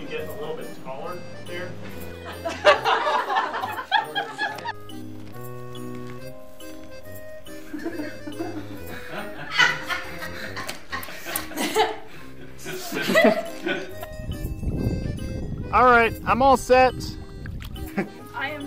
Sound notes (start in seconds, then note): 1.8 people laughing; 7.5 people laughing; 14.0 wind whooshing